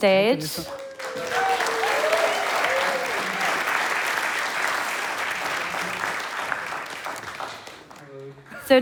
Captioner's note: applause and Cheers